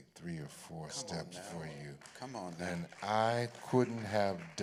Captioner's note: applause